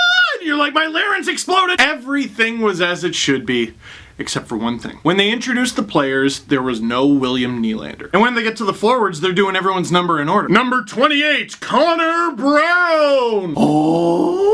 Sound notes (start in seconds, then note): 10.9 mimics announcer's voice